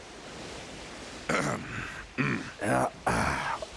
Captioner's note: Piccolo clears his throat; Vegeta clears his throat